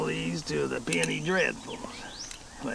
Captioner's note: scoffs